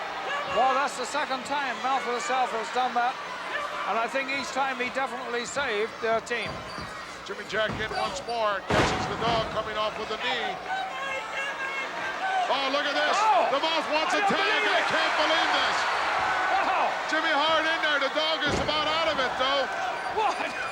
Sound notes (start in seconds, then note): 11.0 Jimmy shouting